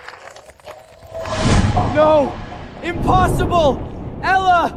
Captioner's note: audience applauding